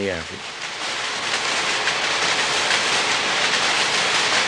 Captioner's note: factory noises